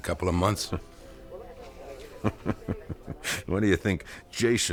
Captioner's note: chuckles